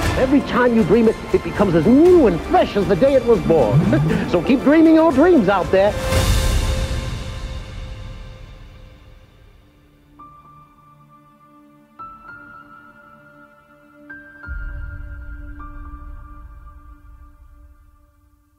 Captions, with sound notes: Every time you dream it, it becomes as new and fresh as the day it was born, (laugh), So keep dreaming your dreams out there!